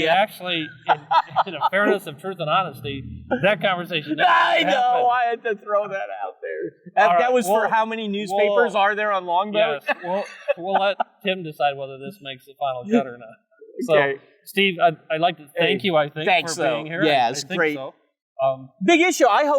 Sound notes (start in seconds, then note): 9.7 loud laughter